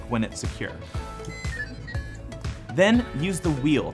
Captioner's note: buttons beeping